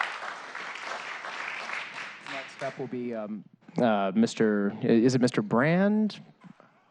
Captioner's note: applause